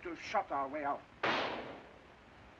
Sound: gunshot

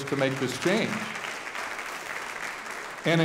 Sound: audience applauding

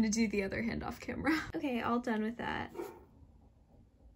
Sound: dog barks

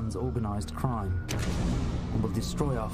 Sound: explosion

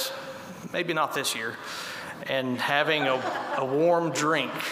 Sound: laughter

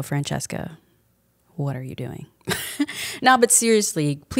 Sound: chuckles

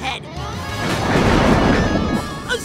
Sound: thundering

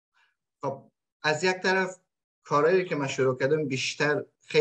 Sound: speaks in Dari

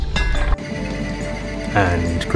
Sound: wheel spinning

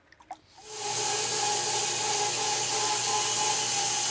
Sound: saw whirs

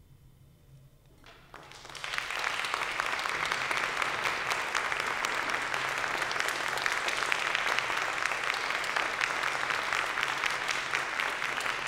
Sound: applause

